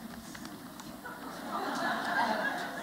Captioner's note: laughter